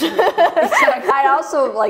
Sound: laughs

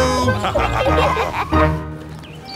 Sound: laughter

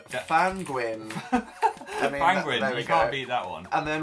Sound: laughs

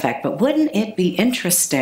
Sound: none

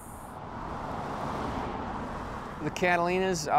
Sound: car engines revving

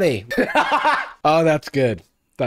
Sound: laughs

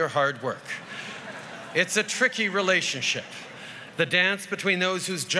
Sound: laughter

